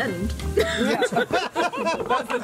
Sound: all laughing

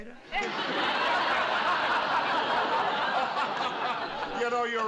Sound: laughter

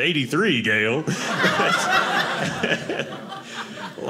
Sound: audience laughing

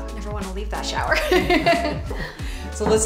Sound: laughs

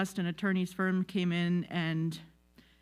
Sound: none

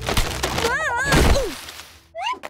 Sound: groaning

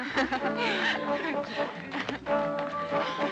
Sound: women talking

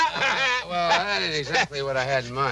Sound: Homer laughing

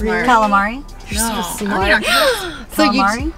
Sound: laughing

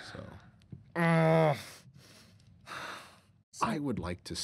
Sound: groaning

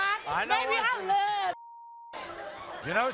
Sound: beep

